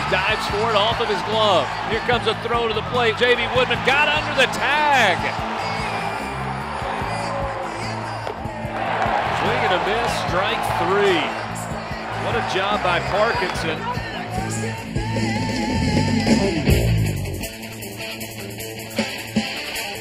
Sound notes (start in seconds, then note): 5.6 crowd cheering; 14.9 classic rock music